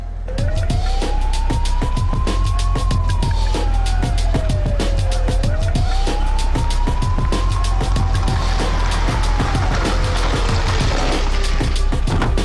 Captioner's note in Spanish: sonido de sirenas